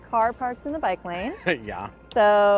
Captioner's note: chuckles